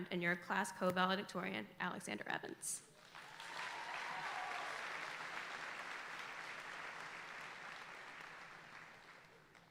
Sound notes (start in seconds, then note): 3.0 audience applauding